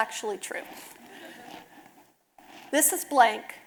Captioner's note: audience laughing